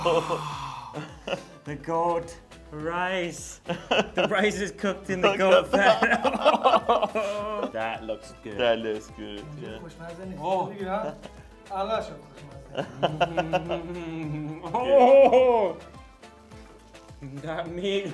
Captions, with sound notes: The goat rice, the rice is cooked in the goat fat. (laughs) That looks good. - That looks good. (speaking in foreign language) - Oh, that meat.